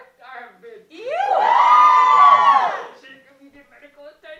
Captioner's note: Cheers in Winnipeg